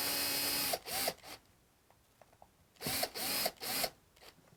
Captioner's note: drilling